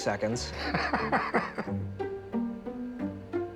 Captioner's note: laughs; soft music